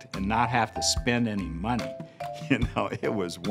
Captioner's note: laughs